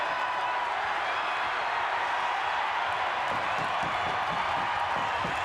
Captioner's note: crowd cheering